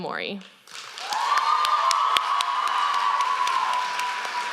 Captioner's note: applause